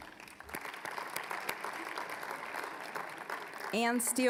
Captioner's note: applause